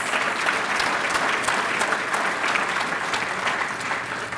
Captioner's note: applause